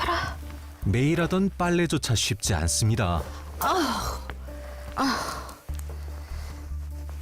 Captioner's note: voiceover